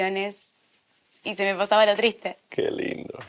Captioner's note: laughing